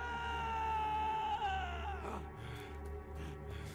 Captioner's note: yelling